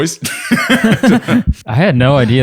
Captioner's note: laughter